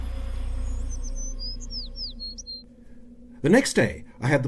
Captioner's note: birdsong